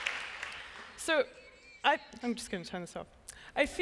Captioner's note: applause